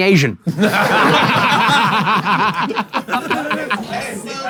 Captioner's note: people in room laughing